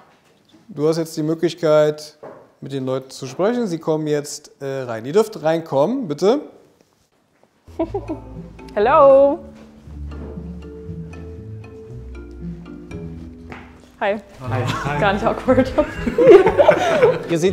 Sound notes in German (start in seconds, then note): 7.7 Kichern; 11.6 Spannungsvolle Musik; 16.3 Lachen